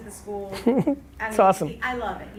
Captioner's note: Gary laughs